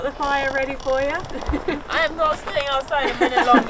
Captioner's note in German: lacht